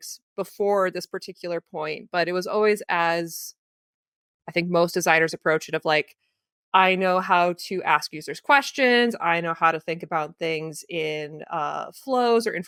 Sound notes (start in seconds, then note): none